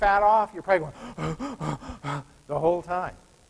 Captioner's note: heavy breathing